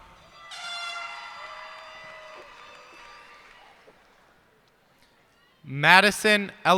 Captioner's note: cheers and applause